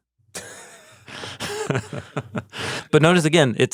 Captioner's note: both chuckles